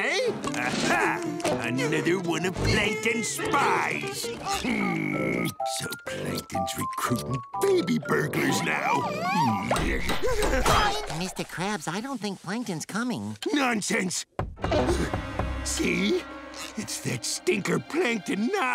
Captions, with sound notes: Aha. Another one of Plankton spies. Hmm. So, Plankton recruiting baby burglars now. Mr. Krabs, I don't think Plankton's coming. Nonsense. [knocking] See? It's that stinker Plankton now.